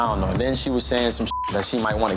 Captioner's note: beep